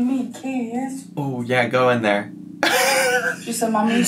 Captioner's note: laughs